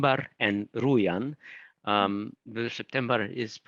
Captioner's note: speaking in foreign language